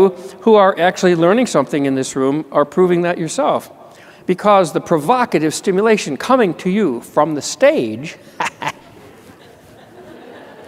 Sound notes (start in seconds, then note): 8.3 laughter